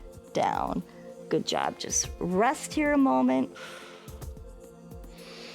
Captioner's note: exhales